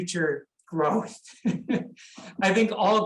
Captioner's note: chuckles